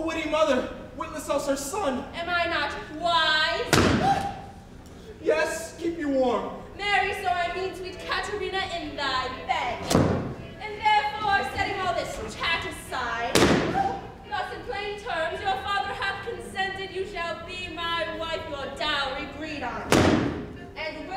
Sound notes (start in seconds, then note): 3.7 balloon pops; 3.8 Grumio gasps; 9.8 balloon pops; 13.3 balloon pops; 13.4 Grumio yelps; 19.9 balloon pops